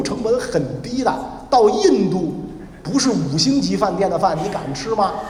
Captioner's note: laugh…